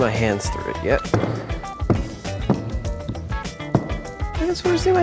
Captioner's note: dull thuds